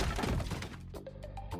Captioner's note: furniture crumbles